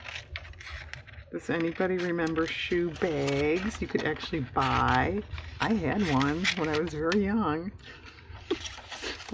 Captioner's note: laughs